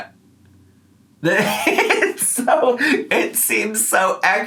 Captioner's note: laughing